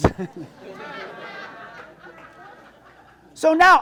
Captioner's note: audience laughs